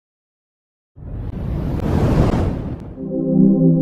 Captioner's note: logo whooshes; ambient electronic music